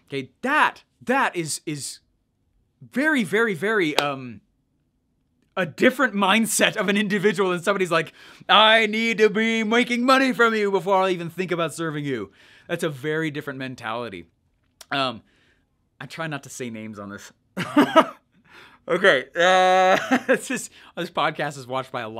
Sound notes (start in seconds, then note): 18.3 laughs